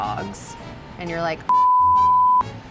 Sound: beep

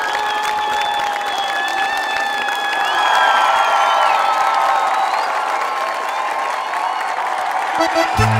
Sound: Gritos y aplausos

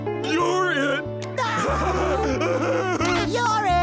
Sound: laughing

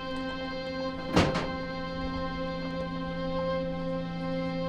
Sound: jumpsuit thuds

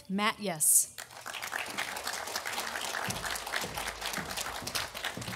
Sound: audience applauding

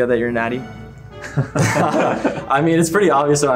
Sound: men laughing

